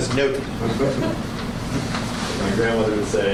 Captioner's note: awkward laughter